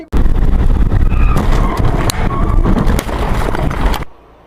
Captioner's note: skidding then crash